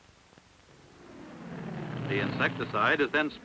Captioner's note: airplane engine roar